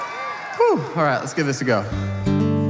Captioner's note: audience Cheering